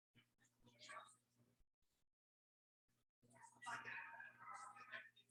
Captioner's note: people chattering indistinctly